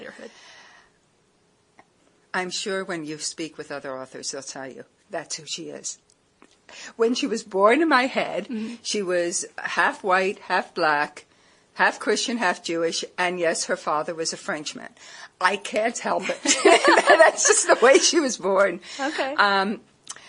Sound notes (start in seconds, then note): 16.2 laughter